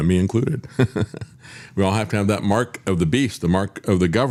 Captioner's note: laughs